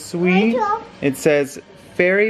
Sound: mumbles

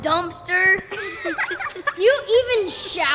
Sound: children laughing

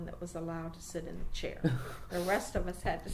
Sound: laughs

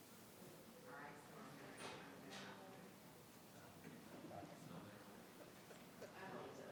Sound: participants chattering in the background

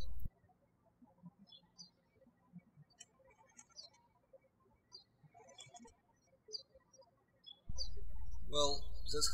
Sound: birds chirping

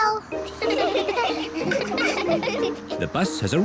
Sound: all giggle

